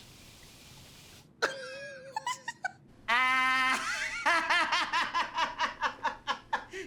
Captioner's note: laughing